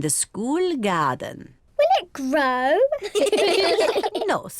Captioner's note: all laugh